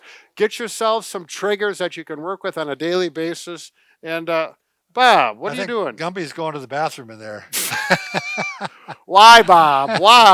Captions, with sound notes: Get yourself some triggers that you can work with on a daily basis, and, Bob, what are you doing? - Gumby's going to the bathroom in there (laughs). - Why, Bob, why?